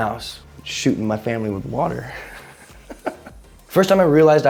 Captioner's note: chuckles